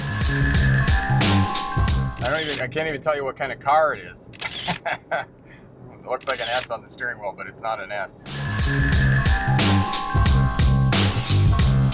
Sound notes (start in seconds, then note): 0.0 bright upbeat music; 4.4 chuckling; 8.3 bright upbeat music